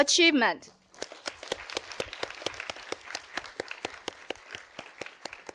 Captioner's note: audience applauding